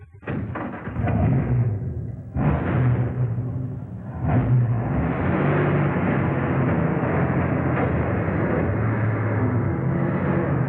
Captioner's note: Roadster engine